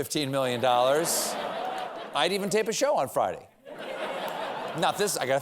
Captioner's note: laughter